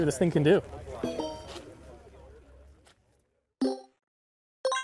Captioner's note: electronic chimes